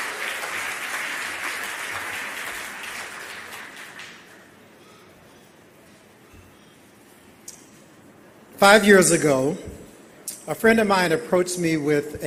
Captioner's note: applause